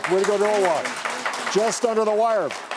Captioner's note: clapping